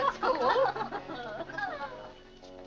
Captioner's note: women laughing